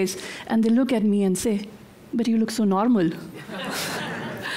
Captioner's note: audience laughter